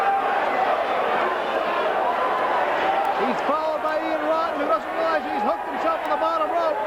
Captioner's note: crowd chatter